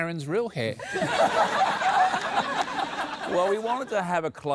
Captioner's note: laughter